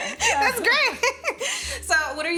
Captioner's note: laughing